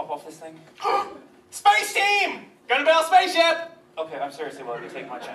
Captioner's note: loud gasp